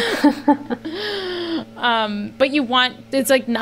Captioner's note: they laugh